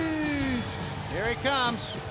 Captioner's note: crowd cheering